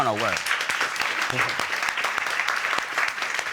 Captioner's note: audience applauding